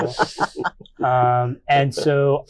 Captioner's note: all laughing